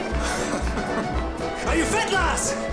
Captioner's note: laughing